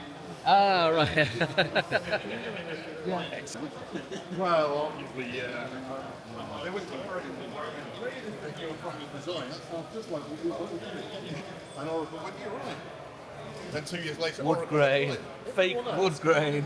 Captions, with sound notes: (Laughing) Wow, well, we, ah. (Mumbling) Wood grain, fake wood grain.